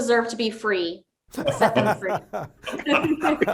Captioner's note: laugh